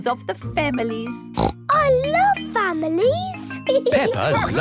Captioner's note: snorts